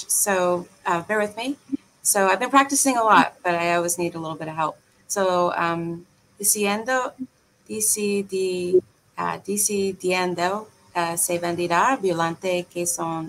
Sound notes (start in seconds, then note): 5.5 speaking in foreign language